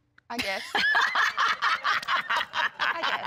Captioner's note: laughing